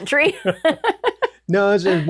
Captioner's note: laughs